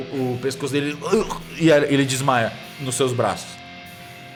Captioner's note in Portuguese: gemido